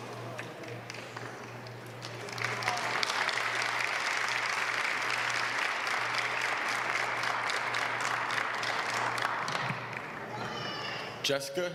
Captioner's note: applause